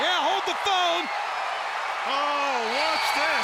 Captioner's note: audience cheers